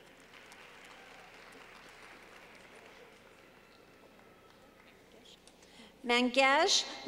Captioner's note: clapping